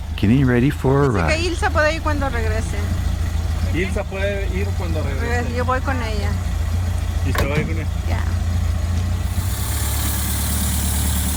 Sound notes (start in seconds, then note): 2.1 background Spanish